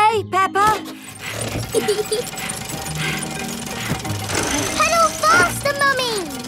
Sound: mummy pig panting; peppa laughing

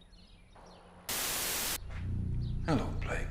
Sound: white noise

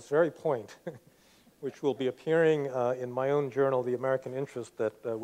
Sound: laughs

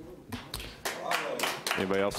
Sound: audience applauding

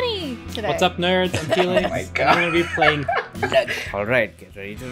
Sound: laughs

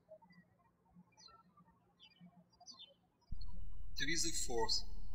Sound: birds chirping

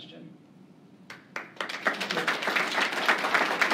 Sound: applause

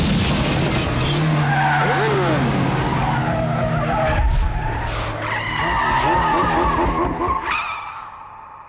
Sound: tires screeching

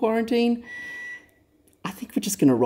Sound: oven beeps

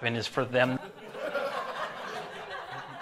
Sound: voice cracking; laughter

